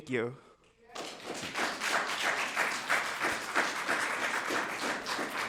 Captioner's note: audience applauding